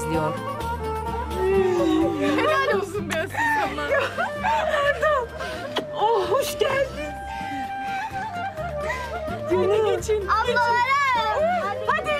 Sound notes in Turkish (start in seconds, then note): 5.1 Öpme sesi